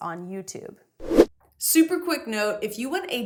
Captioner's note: air whooshing